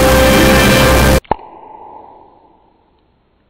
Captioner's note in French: smack